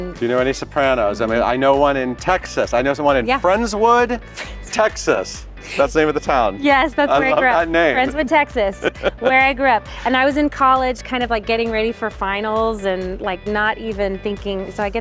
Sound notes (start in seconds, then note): 4.3 chuckles; 6.9 laughing